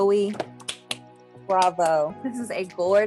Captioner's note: clapping